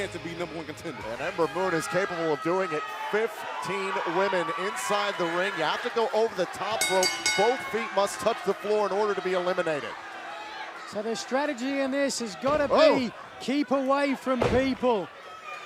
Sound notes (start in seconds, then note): 6.8 bell ringing